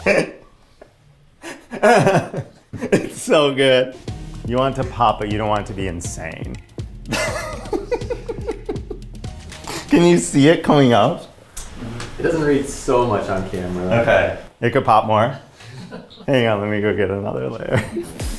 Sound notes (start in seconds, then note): 1.4 giggling delightedly; 7.0 giggling